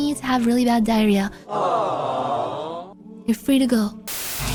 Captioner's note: awww